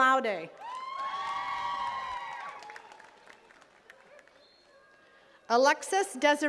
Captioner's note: attendees cheering and clapping